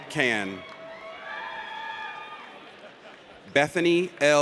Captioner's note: audience cheers